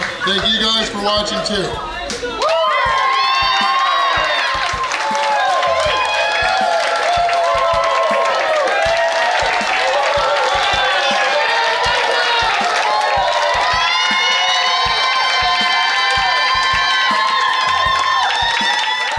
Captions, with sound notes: So thank you guys for watching too. (patrons cheering) (patrons clapping) (upbeat music)